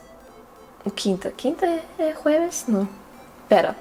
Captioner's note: in Spanish